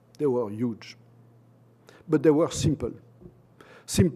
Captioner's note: none